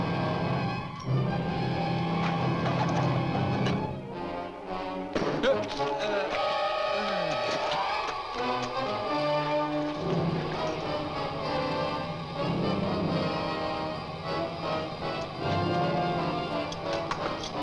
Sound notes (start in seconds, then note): 0.1 suspenseful orchestral music; 5.2 rock thuds; 6.7 dramatic orchestral music